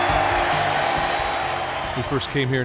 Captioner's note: crowd cheering